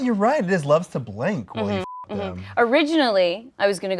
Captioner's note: beep